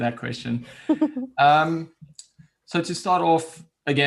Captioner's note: laughs